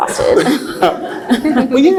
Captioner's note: laughs